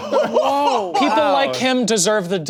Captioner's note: people laughing